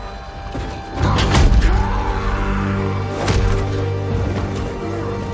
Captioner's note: roaring